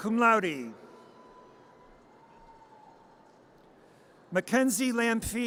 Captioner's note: audience cheers